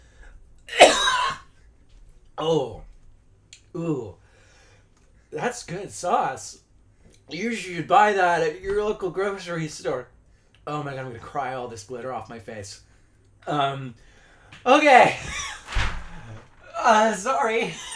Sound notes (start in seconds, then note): 0.7 coughing